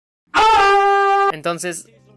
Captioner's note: screams at a wall